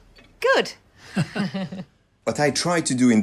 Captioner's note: laughing